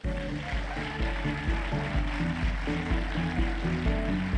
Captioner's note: applause